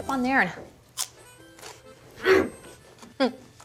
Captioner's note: crunch